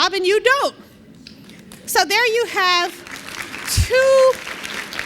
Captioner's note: applause